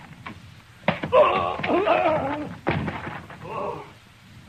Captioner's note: screaming